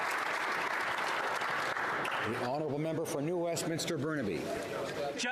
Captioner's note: applause